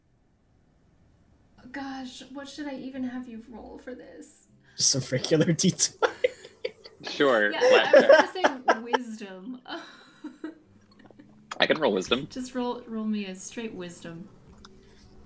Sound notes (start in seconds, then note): 7.6 laughter